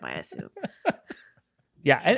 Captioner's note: laughing